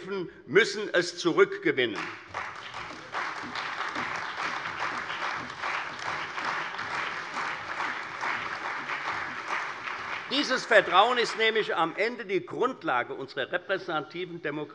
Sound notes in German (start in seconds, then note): 1.8 Beifall bei der CDU und dem BÜNDNIS 90/DIE GRÜNEN